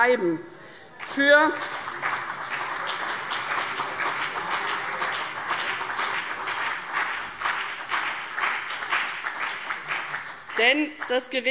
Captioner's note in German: Beifall CDU und BÜNDNIS 90/DIE GRÜNEN